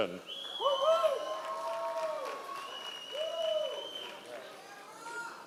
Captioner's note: members of the audience cheering